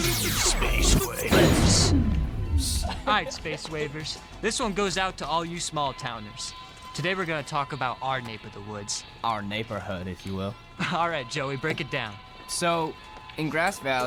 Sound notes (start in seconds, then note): 2.6 laughs